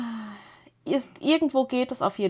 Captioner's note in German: seufzt; japst